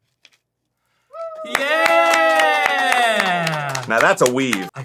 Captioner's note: crew woo-ing and clapping